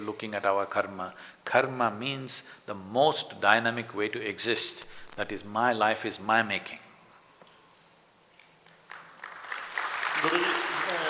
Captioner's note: applause